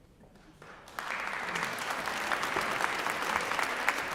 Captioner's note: applause